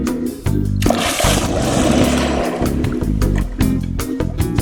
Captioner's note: jazzy music; water splashing; jazzy music